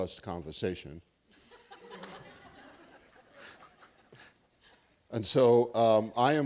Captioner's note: students laughing